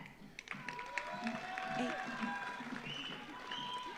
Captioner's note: audience applauds